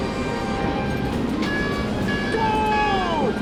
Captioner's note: beeping